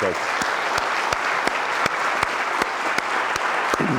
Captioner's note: everyone applauds